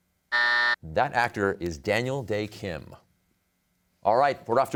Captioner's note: buzzer sounds